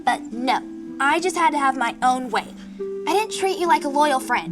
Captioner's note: none